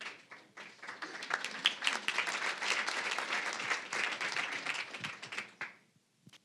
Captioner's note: applause